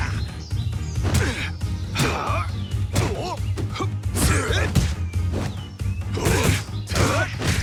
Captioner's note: kicks thudding and characters grunting continue